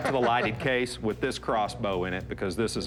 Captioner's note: laughs